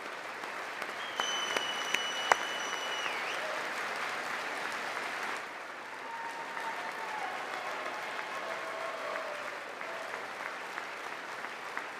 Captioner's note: applause